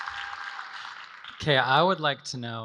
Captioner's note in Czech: Potlesk